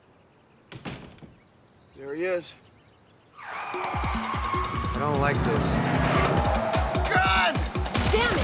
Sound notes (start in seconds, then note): 3.4 tires screeching